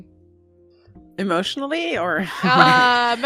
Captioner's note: laughter